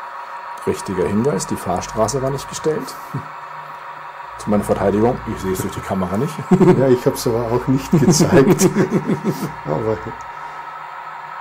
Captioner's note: laughs